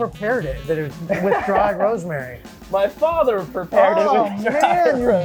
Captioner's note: laughing